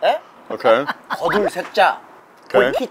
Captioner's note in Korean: 웃음